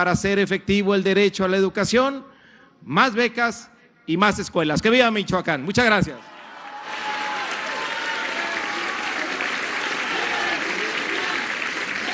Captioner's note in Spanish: aplausos